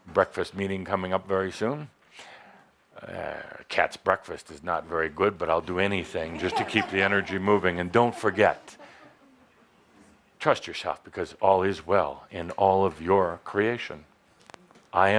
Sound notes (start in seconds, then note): 6.2 laughter